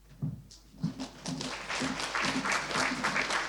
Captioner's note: applause